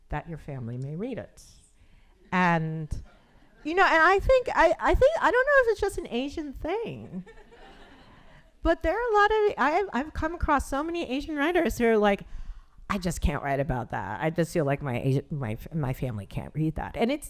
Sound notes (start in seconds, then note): 7.3 audience chuckling